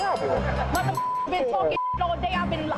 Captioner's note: beeps